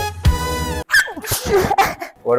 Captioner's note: sneezing sound